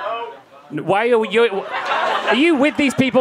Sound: crowd laughing

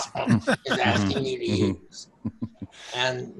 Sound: all laughing

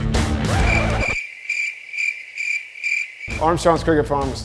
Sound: crickets chirping

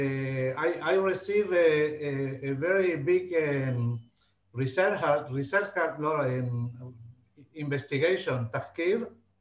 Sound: speaking Hebrew

